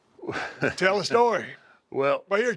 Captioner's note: laugh